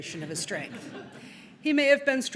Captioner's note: audience laughing